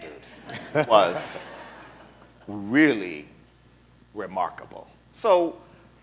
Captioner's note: laughter